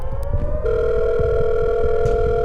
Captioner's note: rings